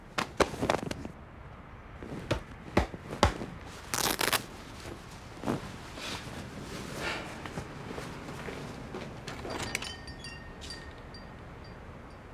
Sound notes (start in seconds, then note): 0.2 patting; 3.7 velcro ripping; 9.7 door opening